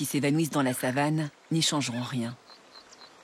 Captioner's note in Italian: cinguettii